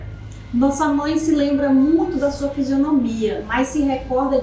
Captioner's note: speaking portuguese